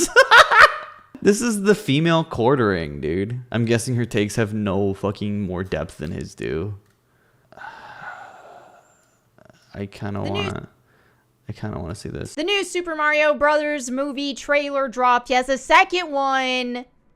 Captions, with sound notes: [laughs] This is the female Quartering, dude! I'm guessing her takes have no fucking more depth than his do. [sighs] I kinda want... I kind of wanna see this. - The new Super Mario Brothers Movie trailer dropped. Yes, the second one.